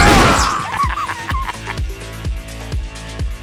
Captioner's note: laughter